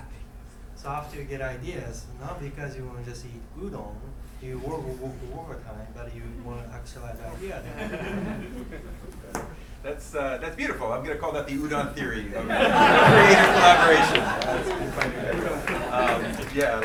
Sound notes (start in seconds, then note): 7.6 laughing; 12.2 laughing; 14.5 clapping